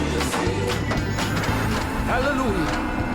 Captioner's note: pinball sounds